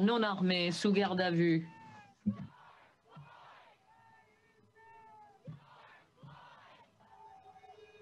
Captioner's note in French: cris de la foule